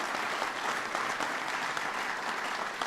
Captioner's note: applause